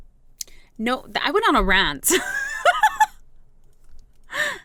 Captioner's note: laugh